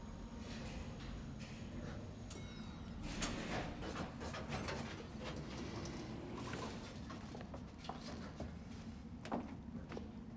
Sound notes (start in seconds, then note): 2.2 elevator dings; 2.9 elevator rattles